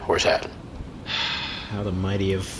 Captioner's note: sighs; quietly